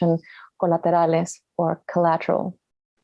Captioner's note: Spanish language